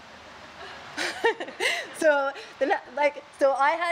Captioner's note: laughs